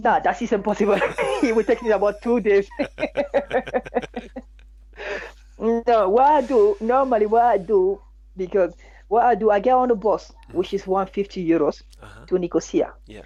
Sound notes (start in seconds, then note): 0.8 both laughing; 4.1 laughs; 4.9 both laughing